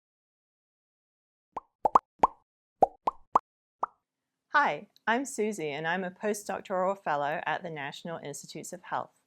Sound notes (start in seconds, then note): 1.6 popping sounds